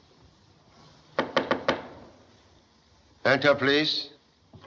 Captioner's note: knocking